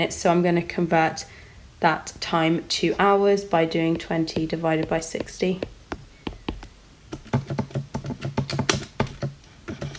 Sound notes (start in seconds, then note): 7.1 typing on calculator